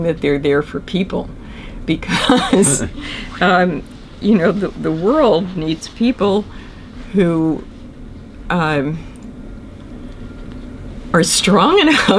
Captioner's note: laughs